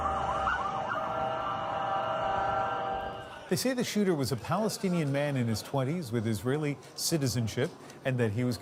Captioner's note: sirens